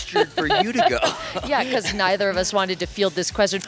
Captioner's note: laughs